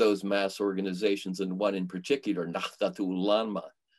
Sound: foreign language

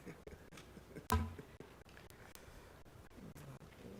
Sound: laughs

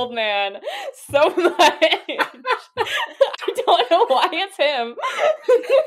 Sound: laughing

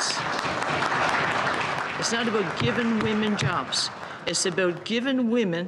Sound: applause

